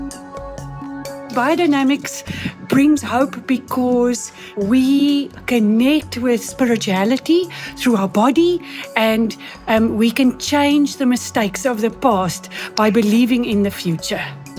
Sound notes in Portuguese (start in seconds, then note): 1.1 em inglês